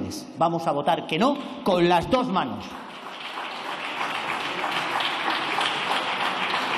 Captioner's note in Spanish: Aplausos